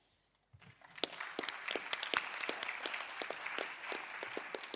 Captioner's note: applause